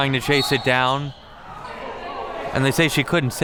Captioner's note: whistle blows